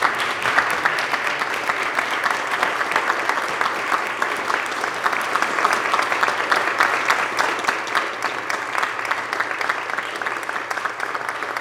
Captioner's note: applause